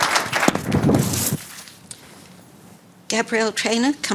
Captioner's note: audience applauding; mic whooshing